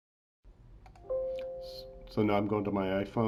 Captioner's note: computer chimes